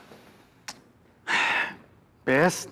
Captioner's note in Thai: เสียงถอนหายใจ